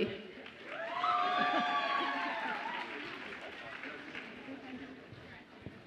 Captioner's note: audience applauds and cheers